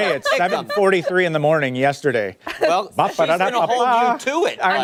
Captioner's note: laughter